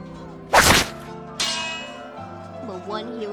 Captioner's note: sword slash and shield clang